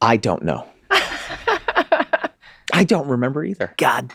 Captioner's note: laughing